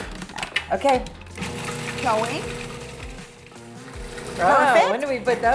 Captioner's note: blender whirring